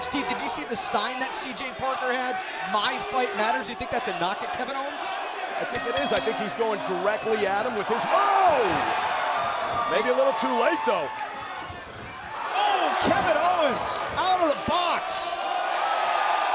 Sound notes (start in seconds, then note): 8.4 crowd groaning; 16.3 crowd cheering